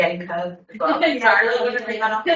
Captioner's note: everyone laughs